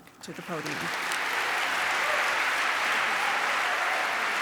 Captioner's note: applause